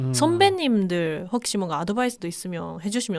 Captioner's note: Piyo imitation